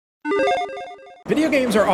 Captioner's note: tone dings